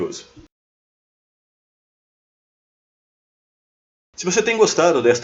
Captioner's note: bureaucratic Silence